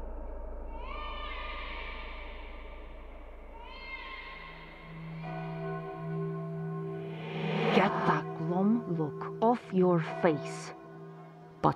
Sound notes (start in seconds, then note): 0.9 baby crying